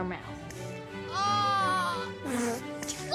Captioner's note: groans, spits